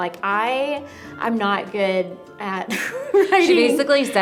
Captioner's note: laughs